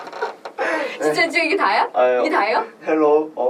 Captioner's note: laughs